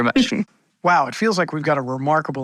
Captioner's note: laughs